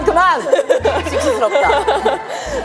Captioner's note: hahaha